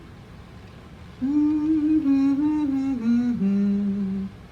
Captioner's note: humming